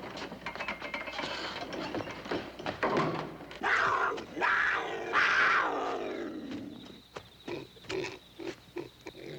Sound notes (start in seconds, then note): 4.3 crickets chirping; 4.4 snarling; 8.4 grunting